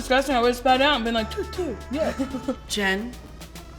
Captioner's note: spitting noises